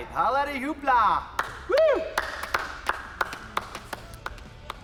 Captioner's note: men clapping